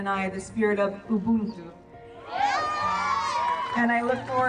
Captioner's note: group cheering